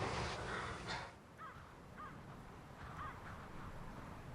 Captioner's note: crows squawking